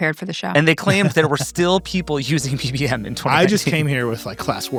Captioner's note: laughs